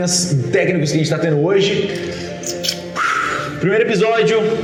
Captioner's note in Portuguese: suspiro